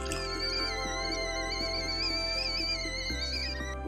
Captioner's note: kettle whistling